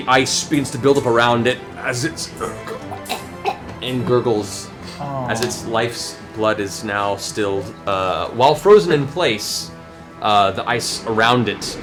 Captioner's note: gurgling